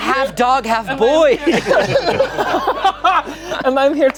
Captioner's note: everyone laughing